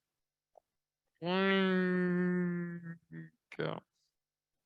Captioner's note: groaning